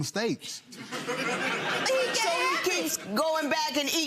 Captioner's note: audience laughs